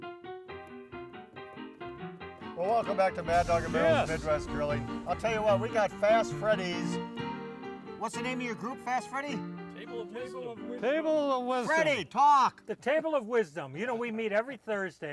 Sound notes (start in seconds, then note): 0.3 upbeat piano music; 9.2 mumbling